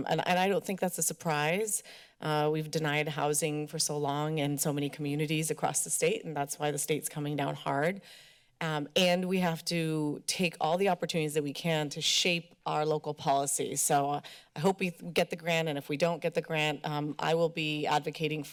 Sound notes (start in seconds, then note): none